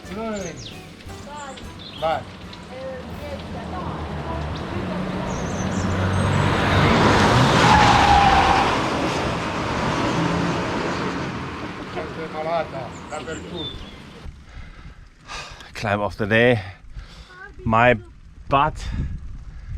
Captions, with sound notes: -Where are you going? Bari! Greece. Actually, a world tour. *screeching tyres* *speaks Italian* Climb of the day, my butt!